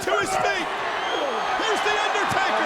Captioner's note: audience cheers